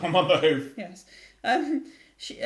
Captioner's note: laugh